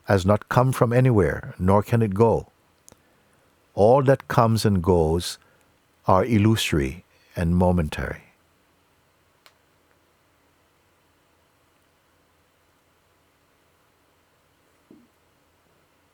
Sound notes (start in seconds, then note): 8.3 silence